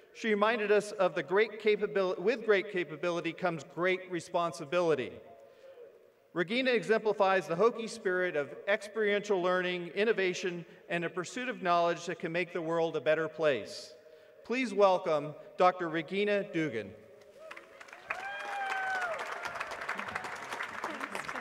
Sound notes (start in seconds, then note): 17.3 applause